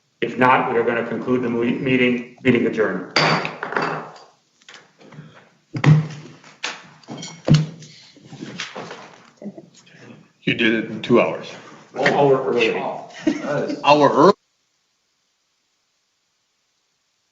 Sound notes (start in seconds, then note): 3.5 gavel banging